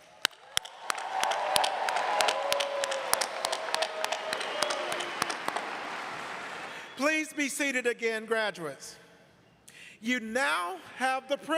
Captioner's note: cheers and applause